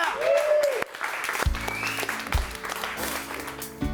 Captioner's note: audience applauding; gentle upbeat music